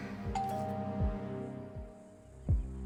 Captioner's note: door bell ringing